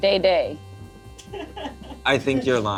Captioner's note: crew laughs